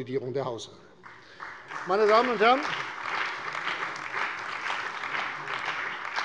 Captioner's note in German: Beifall bei der CDU und dem BÜNDNIS 90/DIE GRÜNEN